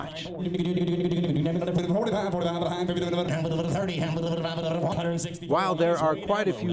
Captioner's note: rapid Auctioneer chant